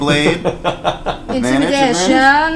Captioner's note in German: lacht